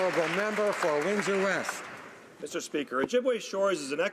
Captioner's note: some Applause